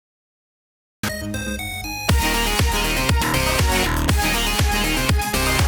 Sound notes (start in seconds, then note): 1.0 upbeat music; 1.1 digital beeps